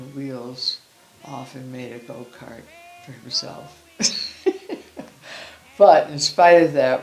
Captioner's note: laughing